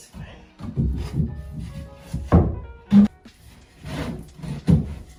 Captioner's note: wood thuds